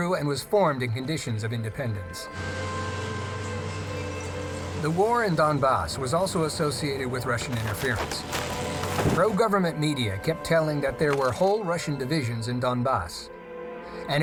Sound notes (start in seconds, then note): 8.4 trees cracking